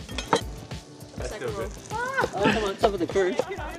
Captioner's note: people chatting